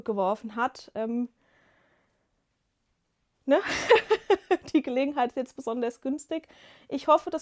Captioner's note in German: gelächter